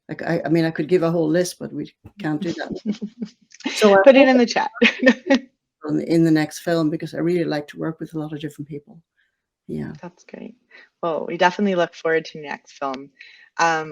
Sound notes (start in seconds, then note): 5.3 laughing